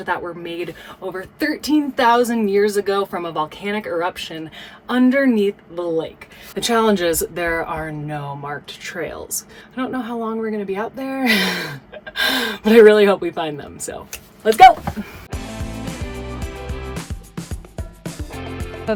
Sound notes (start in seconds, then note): 11.3 laughs; 15.4 upbeat music